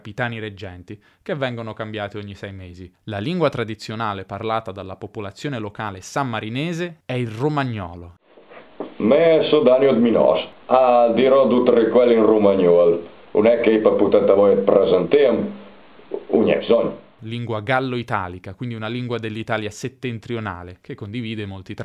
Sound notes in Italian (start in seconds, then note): 12.0 clip in romagnolo